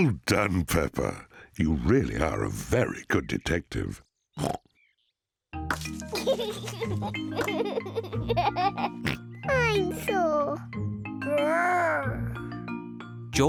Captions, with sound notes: Well done, Peppa. You really are a very good detective. (SNORTS) (LAUGHING) Dinosaur. Grr!